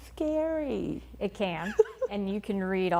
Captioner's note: laughing